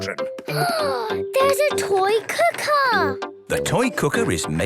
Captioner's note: gasps